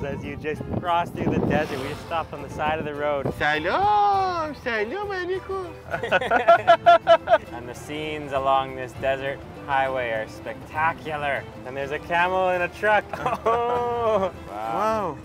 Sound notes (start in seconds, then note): 3.7 yells in foreign language; 5.8 laughs